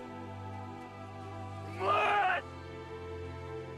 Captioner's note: yells